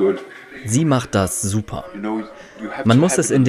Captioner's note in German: englisch